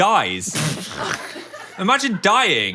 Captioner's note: Dan and production team laughing